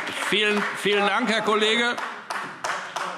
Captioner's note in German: Beifall AfD